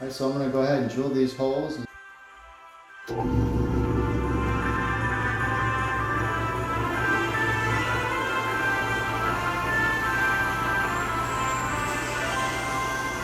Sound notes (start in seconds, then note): 4.0 drill buzzing